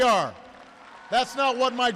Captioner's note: applause